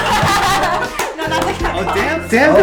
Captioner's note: laughs